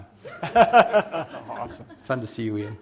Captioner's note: laughter